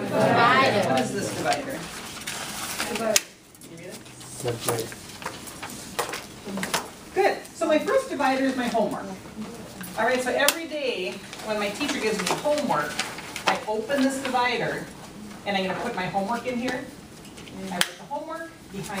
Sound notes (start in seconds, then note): 0.2 voiceover; 4.6 voiceover